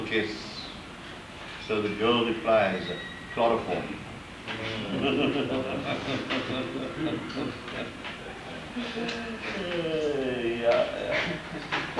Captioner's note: he laughs, they groan